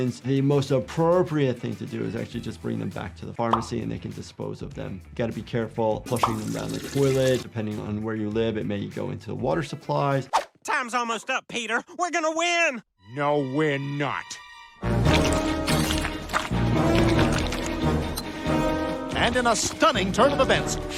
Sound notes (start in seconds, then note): 14.3 dramatic music; 15.0 food sloshing